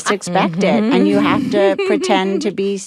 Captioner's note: all laugh